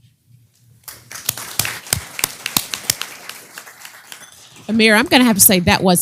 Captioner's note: applause